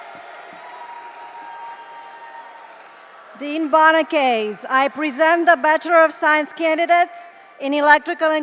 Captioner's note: cheers and applause